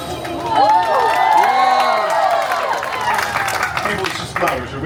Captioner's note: guests cheering and applauding